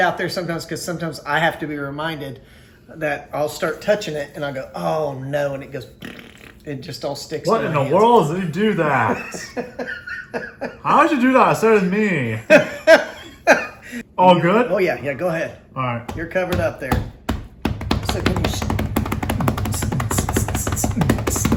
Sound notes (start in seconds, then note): 6.0 bbbblth